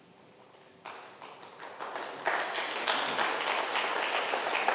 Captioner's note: crowd clapping